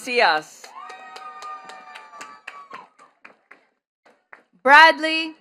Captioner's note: attendees cheering and clapping